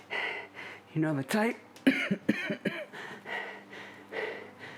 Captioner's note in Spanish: tosiendo